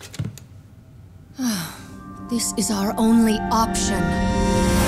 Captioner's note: sighing